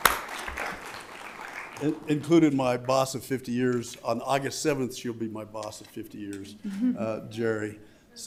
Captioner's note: applause